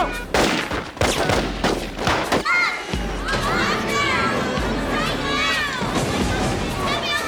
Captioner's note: gunshots; suspenseful music